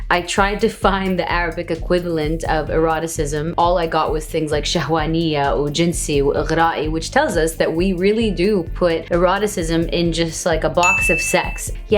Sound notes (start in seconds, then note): 4.5 speaks in foreign language